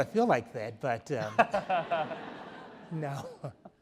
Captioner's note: all laughs